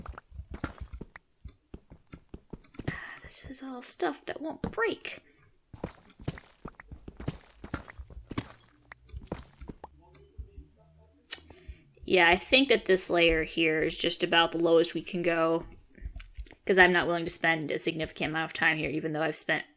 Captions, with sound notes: *quietly* Aw. This is all stuff that won't break. Yeah I think that this layer here is just about the lowest we can go cause I'm not willing to spend a significant amount of time here even though I've spent